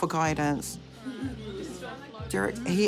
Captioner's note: laughter